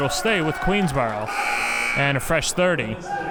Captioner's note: buzzer blares